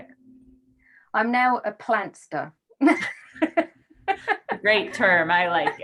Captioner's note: laughs